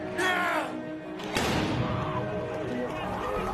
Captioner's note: bang; sirens